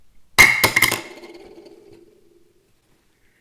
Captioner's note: plunk sound